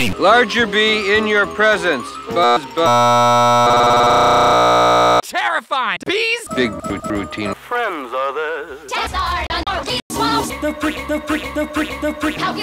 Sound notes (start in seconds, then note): 2.8 buzz noise